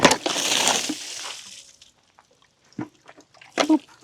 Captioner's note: water splashing